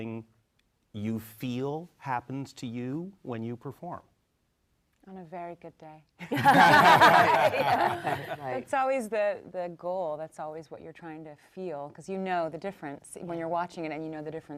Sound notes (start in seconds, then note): 6.3 panel laughs